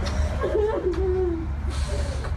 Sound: sobbing, i love you

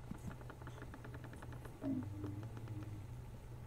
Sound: creaking

